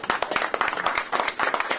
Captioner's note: applause